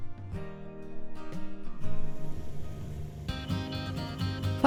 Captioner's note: sound of ATV fades in. Driving electric guitar music starts